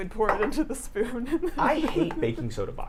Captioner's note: laughs